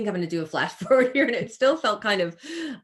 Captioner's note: chuckles